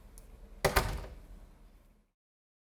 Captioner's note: door closes